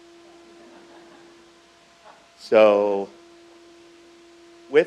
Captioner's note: crowd laughs